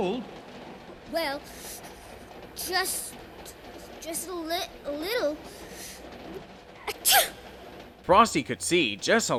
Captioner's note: shivering